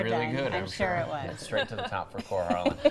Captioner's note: laughter